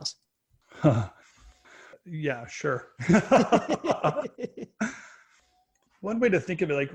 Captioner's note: laughs